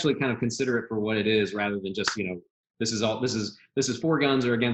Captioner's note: claps hands